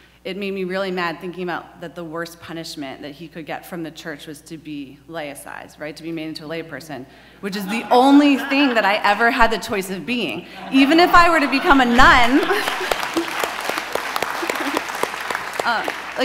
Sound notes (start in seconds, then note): 7.6 audience laughs; 12.3 audience applauds